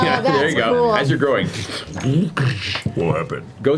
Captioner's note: robotic motion noises